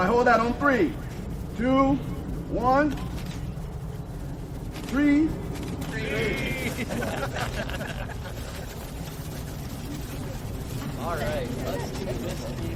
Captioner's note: group speaking; group speaking; group laughing